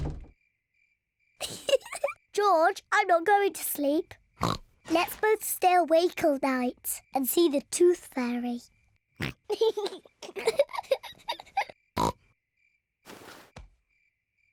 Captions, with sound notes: (DOOR CLOSES) (GIGGLES) George, I'm not going to sleep. (OINKS) Let's both stay awake all night and see the Tooth Fairy. -(OINKS) -(BOTH GIGGLE) (OINKS)